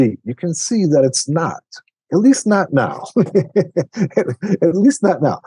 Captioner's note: laughs